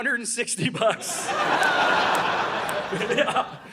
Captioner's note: audience laughing